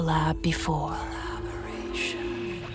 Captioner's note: whisper